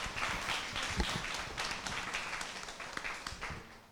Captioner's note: applause